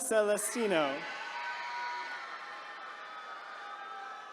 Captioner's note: attendees cheering